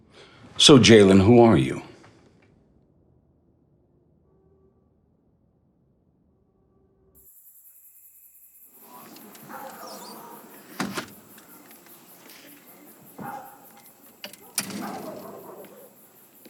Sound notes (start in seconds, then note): 7.3 crickets chirping; 13.1 distant dog barking